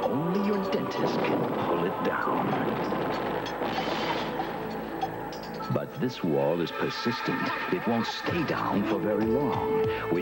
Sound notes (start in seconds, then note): 2.2 bricks/metal falling to ground